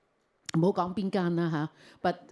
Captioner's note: Cantonese